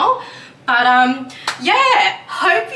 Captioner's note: claps hands